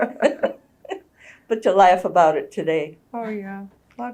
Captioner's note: laughter